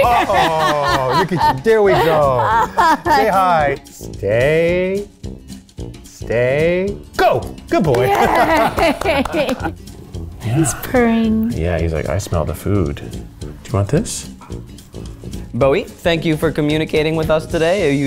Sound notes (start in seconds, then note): 0.0 laughs; 7.9 both laugh